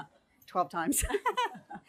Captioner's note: laughs